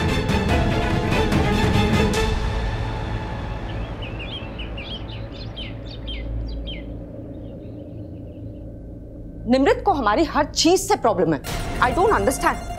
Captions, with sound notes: [birds chirping] Nimrat has a problem with whatever we do. I don't understand!